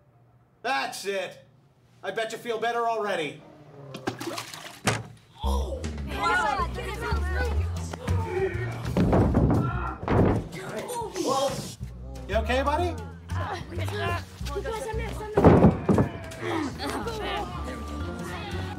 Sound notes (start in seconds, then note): 3.4 groans; 5.8 clamoring; 8.0 groaning; 8.9 clattering; 13.3 chattering; 15.3 thump; 16.2 chattering